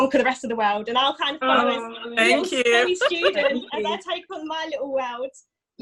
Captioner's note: laughs